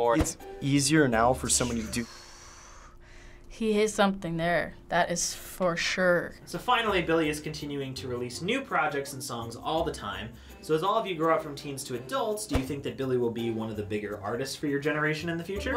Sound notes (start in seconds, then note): 1.6 exhaling